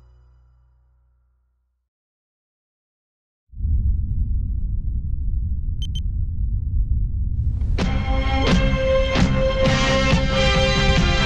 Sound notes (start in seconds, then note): 5.8 beeping; 8.0 catchy groovy music